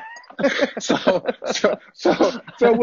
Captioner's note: laughter